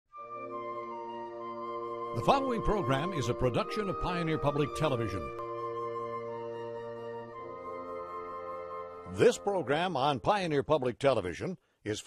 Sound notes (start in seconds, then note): 2.3 voiceover